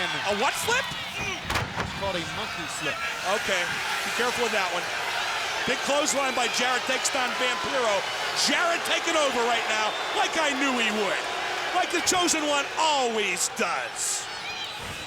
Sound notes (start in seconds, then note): 1.2 body thudding; 3.5 crowd cheering